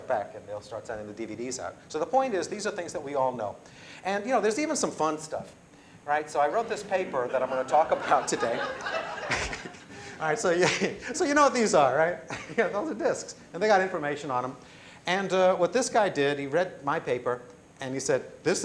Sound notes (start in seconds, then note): 8.7 laughter